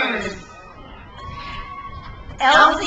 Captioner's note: crowd cheers